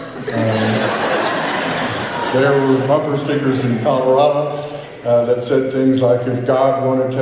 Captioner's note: laughter